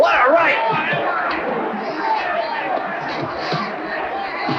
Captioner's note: crowd cheering